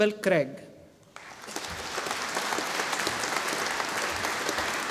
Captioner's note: audience applauding